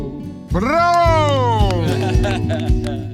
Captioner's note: people applauding; laughing; gentle orchestral music